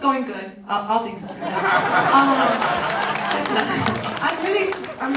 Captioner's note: audience laughs and applauds